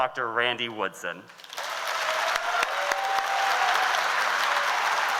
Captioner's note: audience applauds